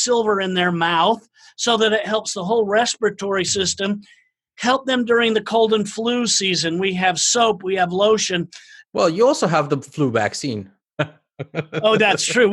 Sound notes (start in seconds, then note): 11.0 laugh